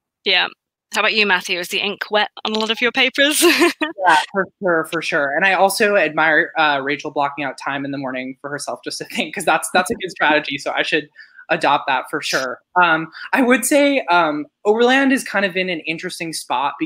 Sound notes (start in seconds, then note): 3.4 laughs; 9.4 chuckles